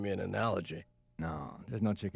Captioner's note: none